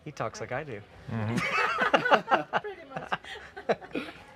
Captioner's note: laughing